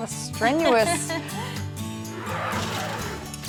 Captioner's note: laughter